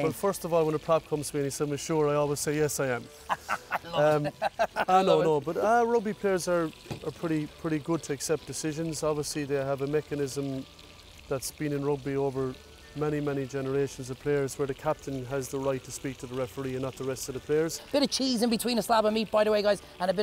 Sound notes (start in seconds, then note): 3.2 laughs